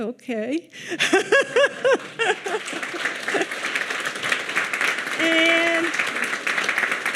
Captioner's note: laughs; audience clapping